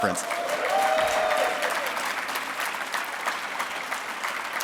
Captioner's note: audience applauding